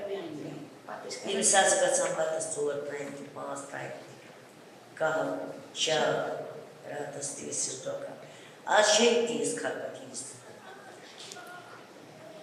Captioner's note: non-english speech